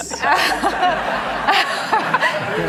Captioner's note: laughing